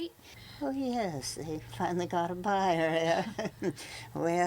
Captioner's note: laughs